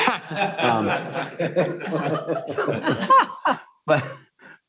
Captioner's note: laughing